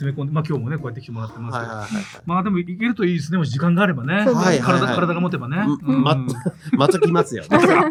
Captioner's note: laughs